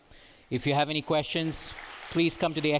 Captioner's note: audience applauding